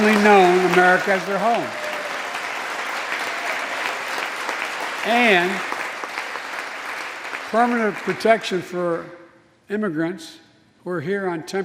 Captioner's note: applause